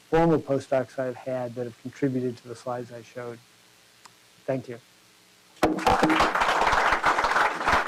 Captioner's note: applause